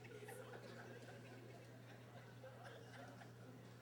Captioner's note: laughter